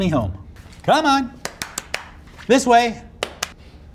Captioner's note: clapping